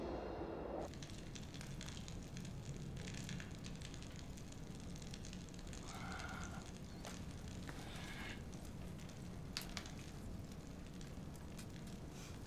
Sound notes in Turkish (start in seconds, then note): 0.7 Ateş çıtırtısı sesi